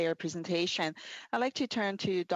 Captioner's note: speaking French